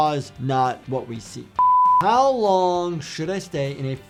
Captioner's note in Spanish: pitidos de producción